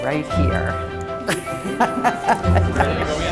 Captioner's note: laughs heartily